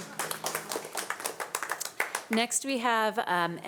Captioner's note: audience applauding